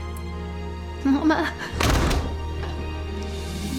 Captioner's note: door shuts